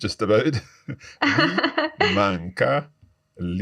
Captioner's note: laughs